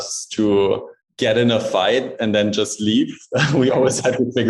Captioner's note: laughing